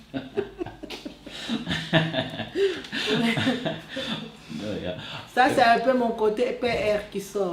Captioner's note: laughter